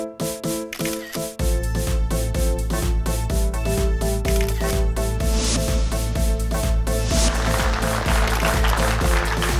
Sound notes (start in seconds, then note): 0.6 upbeat music; 0.7 cameras clicking; 7.1 audience clapping